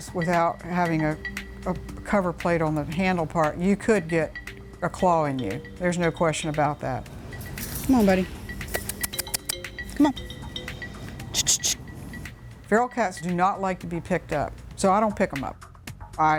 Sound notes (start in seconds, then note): 8.7 clicks tongue; 11.3 clicks tongue